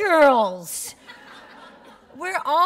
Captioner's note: laughter